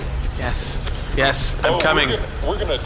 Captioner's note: excitedly